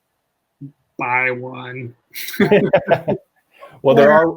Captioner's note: laugh